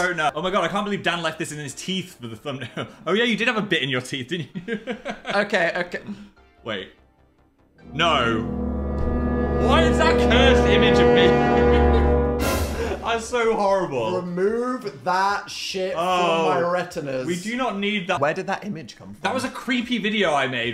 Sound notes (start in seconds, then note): 4.4 Phil laughs; 10.9 spooky music